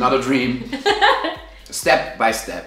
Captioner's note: laughing